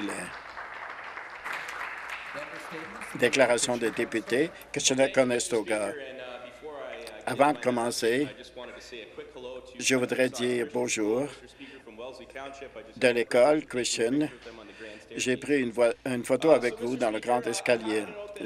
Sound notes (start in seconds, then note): 2.1 some Applause